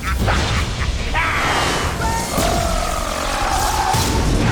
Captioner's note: growls